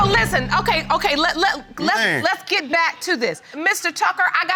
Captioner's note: stammers